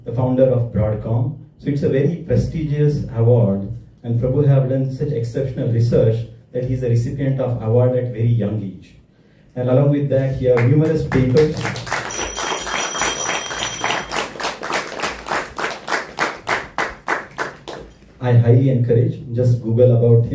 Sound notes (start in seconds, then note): 14.7 applause